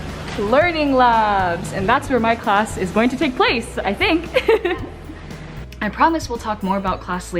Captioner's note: laughing